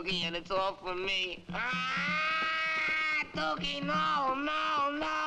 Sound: stammers; yells

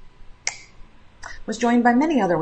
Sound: clicks tongue

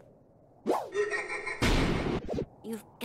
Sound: creepy giggle

